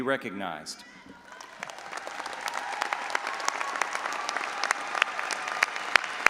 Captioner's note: all applauding and audience cheering